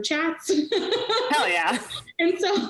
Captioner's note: laughing